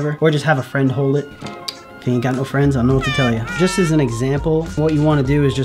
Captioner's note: Simpson's character laugh